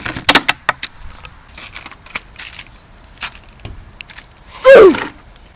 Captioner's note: snow noice